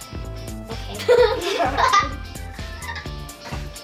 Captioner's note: laughter